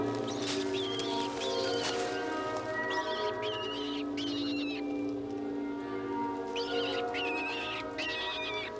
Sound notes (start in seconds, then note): 0.0 tense music; 0.7 animal squeals